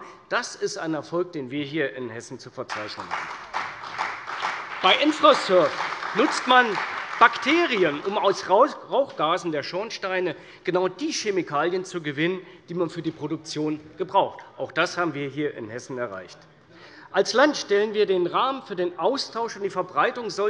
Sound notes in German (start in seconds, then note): 2.7 Beifall bei der CDU und dem BÜNDNIS 90/DIE GRÜNEN